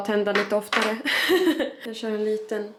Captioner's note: laughs